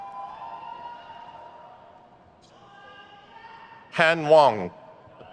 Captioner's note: crowd cheers